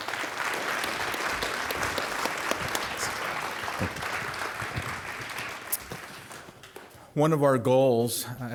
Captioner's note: applause